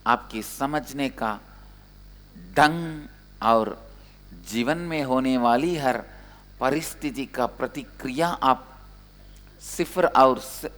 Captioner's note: hindi